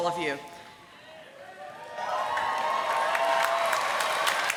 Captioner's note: applause